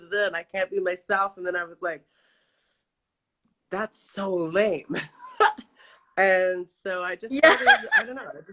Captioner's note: laughs